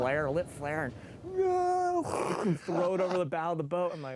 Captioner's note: mimics explosion